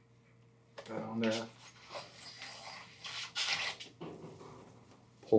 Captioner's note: metal scraping